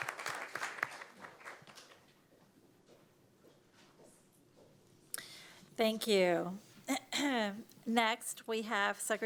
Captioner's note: applause